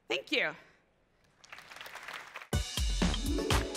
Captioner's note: applause